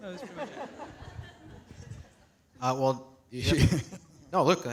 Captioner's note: audience laughs